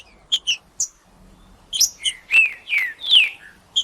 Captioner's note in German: trinca ferro cantando